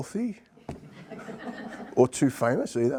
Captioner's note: participants laughing